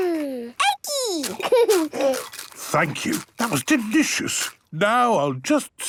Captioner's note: laughing, crunching